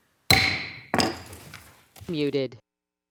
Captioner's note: gravel tapping